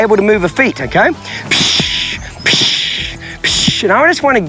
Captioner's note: loud shushing